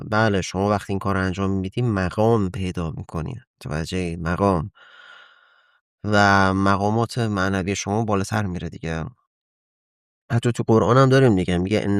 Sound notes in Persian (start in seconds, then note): 4.8 صدای آه; 4.8 صدای بند آمدن نفس